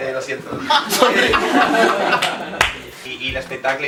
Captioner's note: laughs